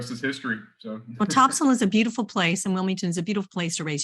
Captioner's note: chuckles